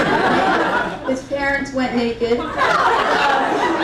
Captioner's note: crowd laughing; crowd laughing intensifies